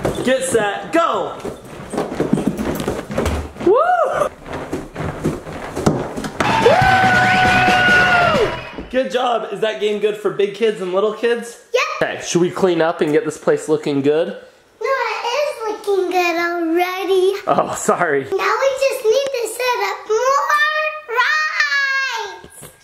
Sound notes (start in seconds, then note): 7.0 applause